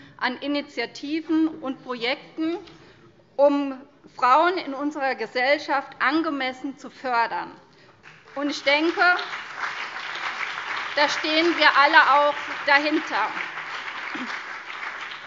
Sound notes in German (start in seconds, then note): 8.0 Beifall CDU und BÜNDNIS 90/DIE GRÜNEN